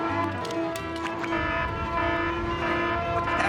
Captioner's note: alarm blaring